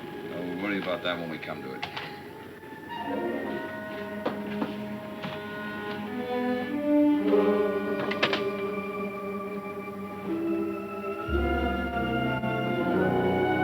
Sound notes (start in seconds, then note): 0.8 tense music; 3.0 light suspenseful music; 3.0 window clacking